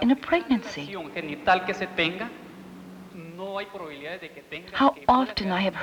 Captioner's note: speaking Spanish